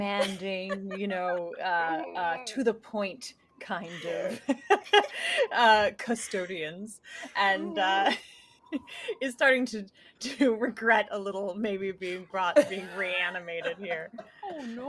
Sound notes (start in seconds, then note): 3.9 laughing; 8.6 chuckles